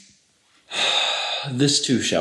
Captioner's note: long sigh